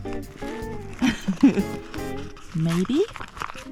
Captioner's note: chuckles